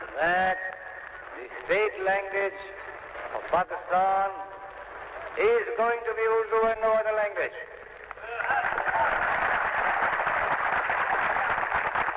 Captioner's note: applause